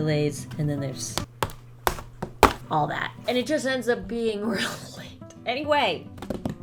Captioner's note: tapping